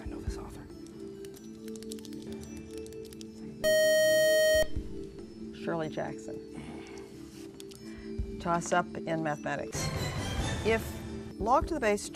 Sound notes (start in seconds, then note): 1.9 buzzer